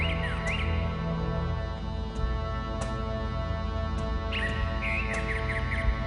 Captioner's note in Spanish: Trino de aves